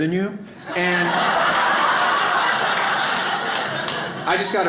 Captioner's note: audience laughs